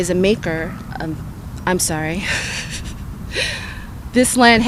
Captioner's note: nervous laughter